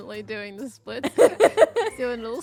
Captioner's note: laughs